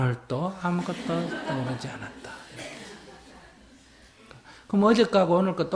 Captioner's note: laughter